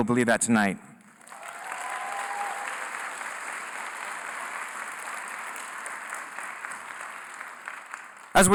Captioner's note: applause